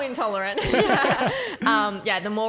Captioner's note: laughing